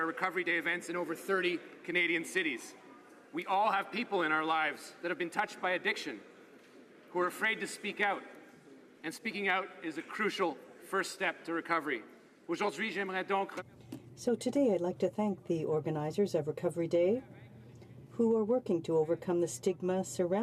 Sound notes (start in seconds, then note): 17.1 speaking French